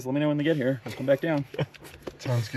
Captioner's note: laughs